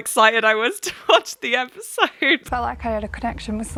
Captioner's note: laughs